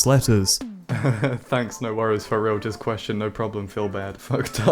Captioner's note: chuckles